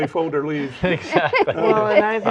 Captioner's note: laughing